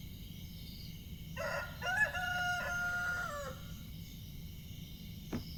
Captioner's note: A rooster crows